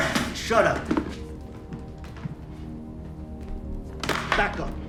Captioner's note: footsteps thudding